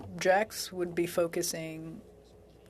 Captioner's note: speaking French